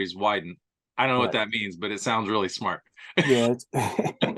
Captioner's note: laughing